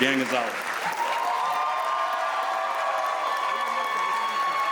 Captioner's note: audience cheers